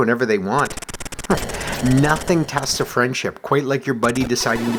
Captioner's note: chuckles